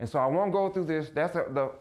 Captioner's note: none